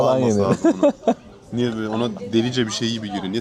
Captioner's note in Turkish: kahkaha